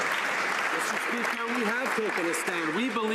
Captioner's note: some Applause